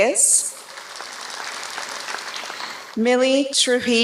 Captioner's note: applause